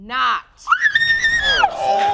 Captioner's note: screams